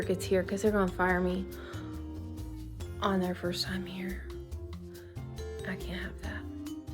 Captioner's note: sigh